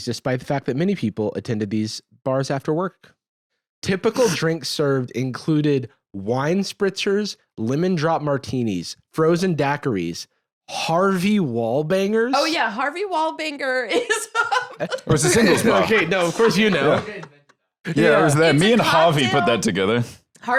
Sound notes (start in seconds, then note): 13.9 laughs